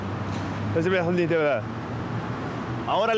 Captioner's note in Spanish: Habla en Francés Inventado